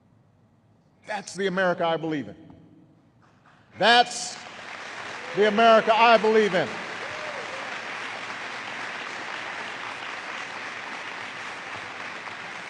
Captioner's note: applause